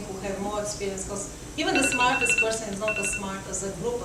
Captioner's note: alarm rings